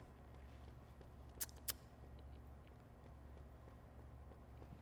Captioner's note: clicks tongue